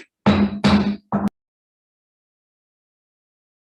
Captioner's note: gavel knocking